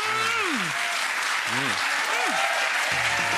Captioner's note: crowd cheers